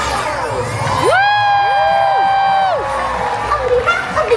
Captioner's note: crowd cheers